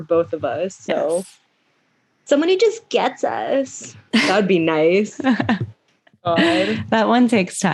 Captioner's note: laughs